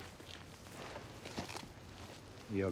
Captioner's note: footstep